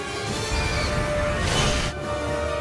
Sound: roars

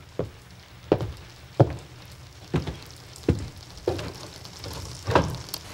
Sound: footsteps thudding on the floor

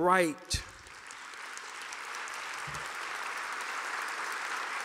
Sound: audience applauding

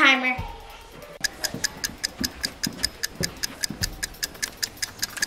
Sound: timer ticking

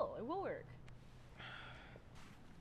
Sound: sighs

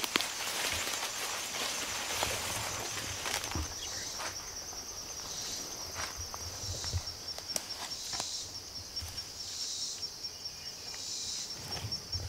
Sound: birds squawking

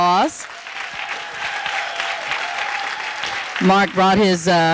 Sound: audience applauding

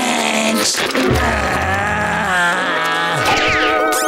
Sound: groaning; squeaking

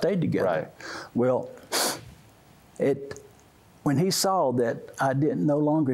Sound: sniffs

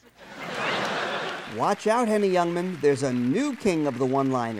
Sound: audience laughing

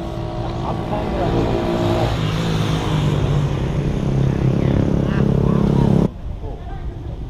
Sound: motorbike sound

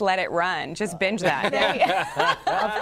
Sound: laughter

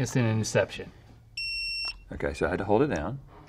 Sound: projector beeps

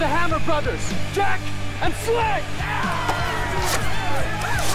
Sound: battle Cries

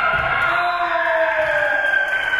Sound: spectators cheering and applauding; whistle being blown

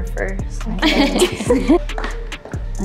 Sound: chuckles; smooth music

